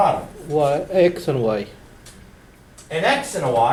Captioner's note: voiceover